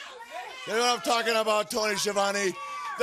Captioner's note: crowd chatter